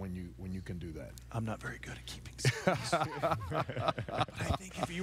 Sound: whispering; all laughing; still whispering

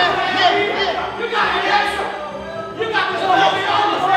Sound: group cheering

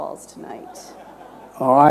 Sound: laughter

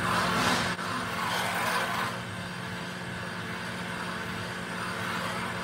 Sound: metal grinding

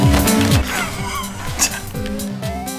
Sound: laugh

